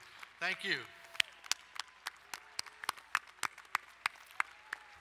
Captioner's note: applauding